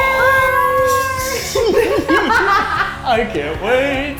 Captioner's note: laughing